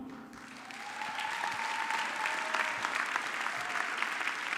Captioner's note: audience clapping